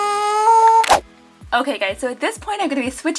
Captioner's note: air whooshing